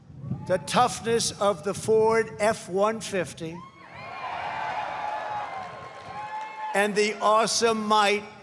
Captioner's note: applause